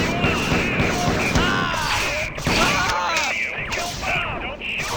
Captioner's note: sounds of warm welcome